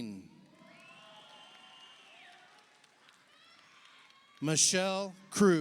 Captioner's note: audience applauds; audience cheers